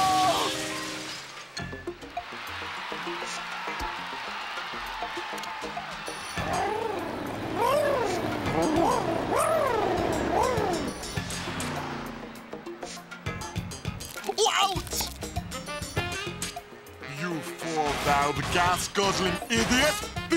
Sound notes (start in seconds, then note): 2.0 crowd cheering; 6.2 cars purring